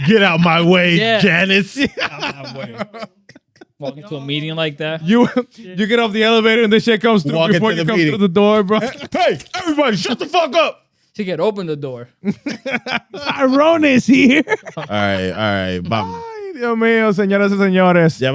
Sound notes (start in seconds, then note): 2.5 laughing; 12.2 laughing; 16.1 speaking In Foreign Language